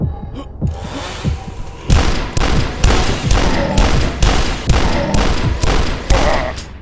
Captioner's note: Fast Fire Totem heartbeat; rapid shotgun blasts